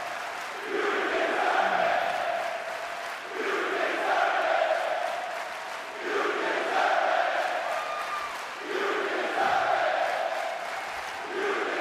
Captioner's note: audience chanting